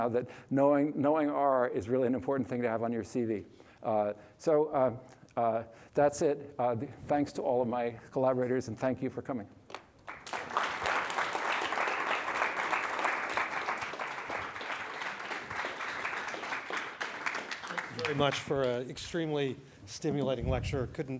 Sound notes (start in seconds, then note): 10.4 applause